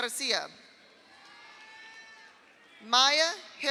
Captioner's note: audience applauds; audience cheers